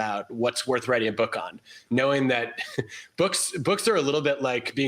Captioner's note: laughs